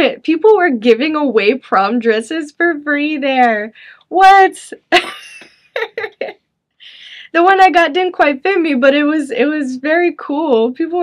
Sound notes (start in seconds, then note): 5.0 chuckles